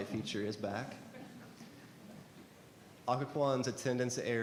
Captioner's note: board members chuckle